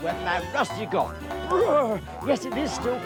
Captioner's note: boinging; shivers